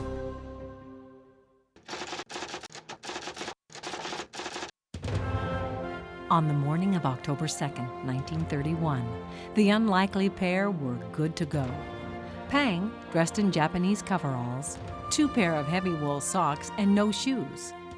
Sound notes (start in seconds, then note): 1.8 typewriter keys clacking